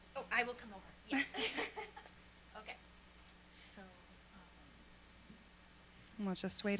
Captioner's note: laughter